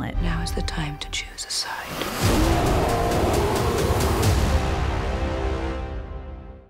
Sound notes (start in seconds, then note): 2.0 bear roars